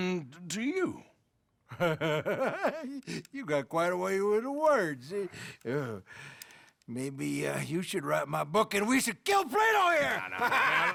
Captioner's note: laughs